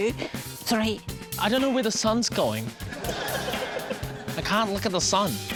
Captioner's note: laughter